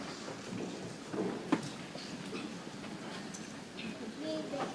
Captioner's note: people chattering softly